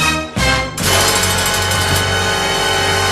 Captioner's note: prison cell door closes; dramatic music sting